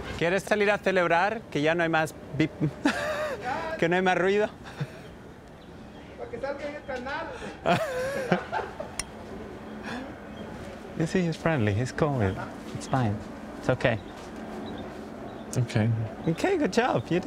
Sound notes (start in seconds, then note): 0.2 speaking in Spanish; 6.1 speaking in Spanish